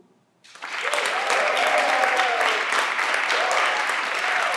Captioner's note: everyone claps